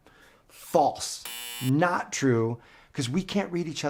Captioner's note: buzzer beeping